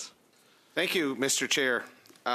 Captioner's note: speaking French